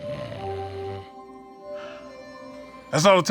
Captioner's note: snoring